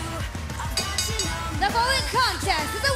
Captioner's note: bell ringing